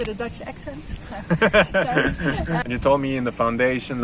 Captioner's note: both laugh